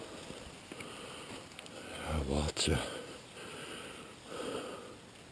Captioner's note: none